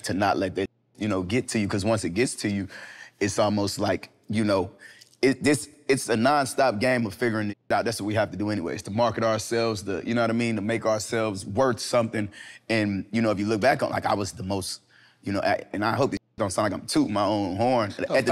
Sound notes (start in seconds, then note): none